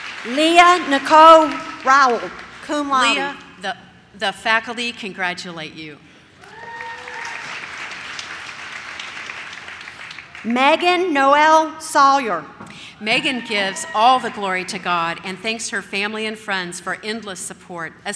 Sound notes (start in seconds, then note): 0.0 audience claps; 6.4 audience cheers